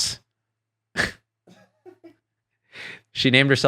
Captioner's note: laughs